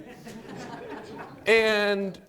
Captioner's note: audience chuckling